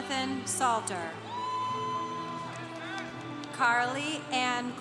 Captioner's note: congregation cheering